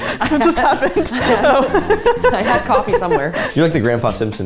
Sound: laughing

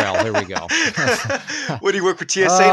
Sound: laughing

